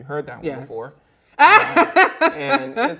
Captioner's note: laughs loudly